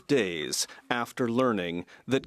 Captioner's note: speaking French